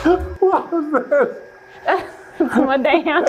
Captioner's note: laughing